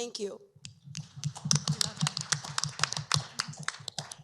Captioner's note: applause